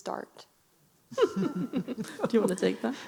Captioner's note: laughing